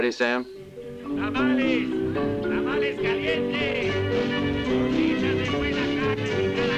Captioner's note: bright music; vendor speaking in Spanish